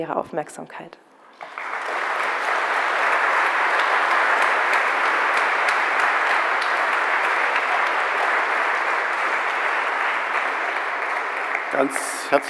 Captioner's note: applause